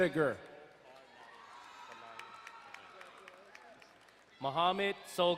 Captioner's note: crowd cheering and applauding